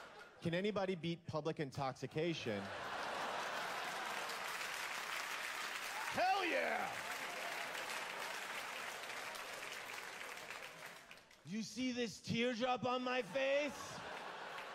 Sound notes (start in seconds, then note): 7.7 applause